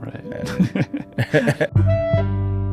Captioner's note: laughing; sharp electronic music